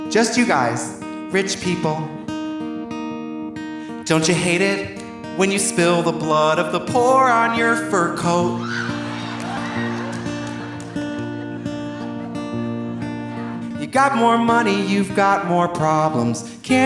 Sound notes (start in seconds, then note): 8.5 audience laughing; 8.6 audience applauding